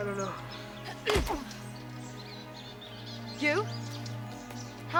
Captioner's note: groans